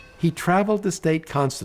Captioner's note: train bell chiming